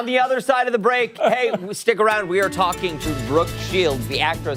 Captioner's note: laughter